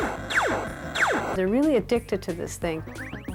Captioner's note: laser fire